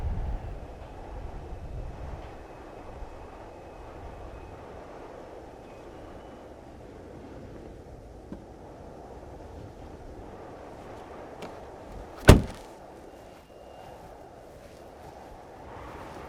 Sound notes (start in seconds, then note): 12.1 car door slams